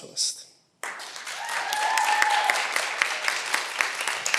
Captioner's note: cheering